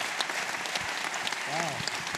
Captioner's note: applause